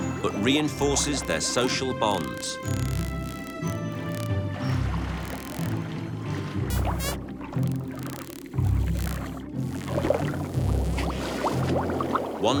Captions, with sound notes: but reinforces their social bonds. [dolphin squeaking]